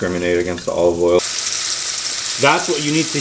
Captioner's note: sizzling